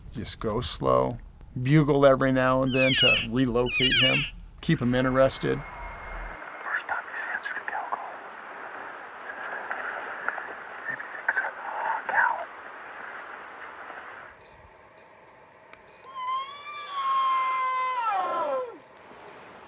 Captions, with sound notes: Just go slow Bugle every now and then to relocate him, keep him interested. [Hunter Bull Call]